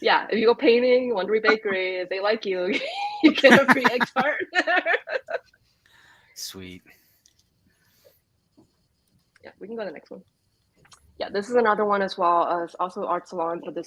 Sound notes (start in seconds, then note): 3.4 laughs